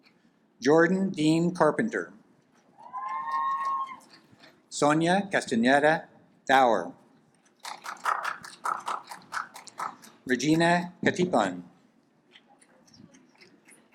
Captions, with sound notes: Jordan Dean Carpenter, (audience applaud) Sonya Guston Yetta dour, (audience applaud) Regina Patpan,